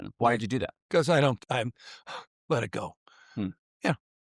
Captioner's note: sighs